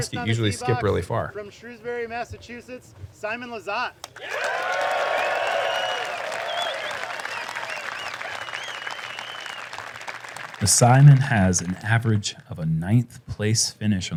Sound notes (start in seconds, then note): 4.1 applause; 4.1 cheering